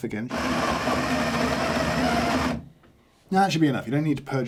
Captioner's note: machine grinding